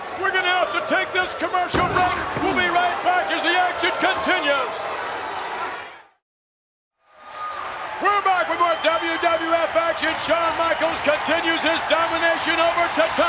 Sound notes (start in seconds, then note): 7.2 audience cheers